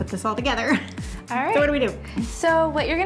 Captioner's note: laughs